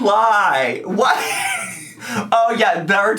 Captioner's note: laughs